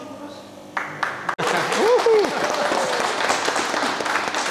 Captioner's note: people clapping